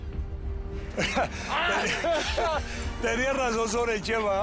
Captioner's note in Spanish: Risas